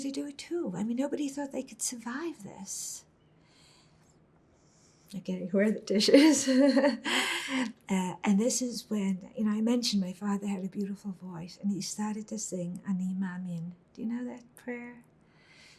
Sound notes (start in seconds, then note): 6.0 laughing; 12.5 hebrew